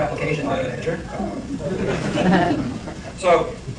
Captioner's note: laughter